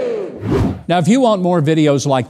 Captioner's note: air whooshes